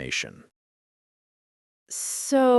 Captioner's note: stunned silence